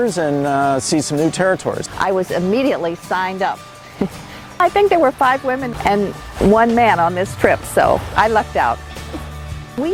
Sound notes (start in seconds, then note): 3.9 chuckles